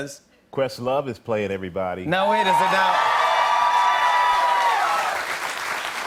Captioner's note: cheers and applause